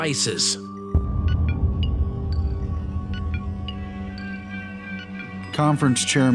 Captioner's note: machines beeping, music